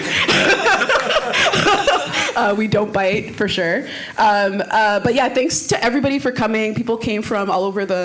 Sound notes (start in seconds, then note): 2.3 laughing